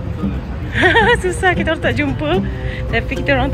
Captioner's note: laugh